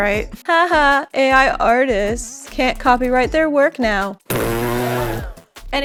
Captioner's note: raspberry noises with audience gasp